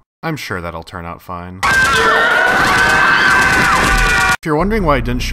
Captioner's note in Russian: стрельба и крики паники